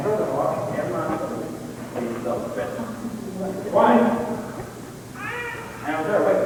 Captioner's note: chatter